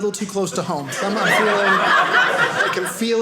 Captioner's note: audience laughing